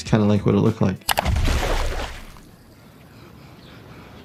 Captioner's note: loud splash